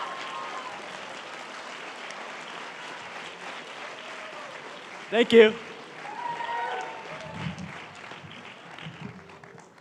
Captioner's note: cheering and applause; applause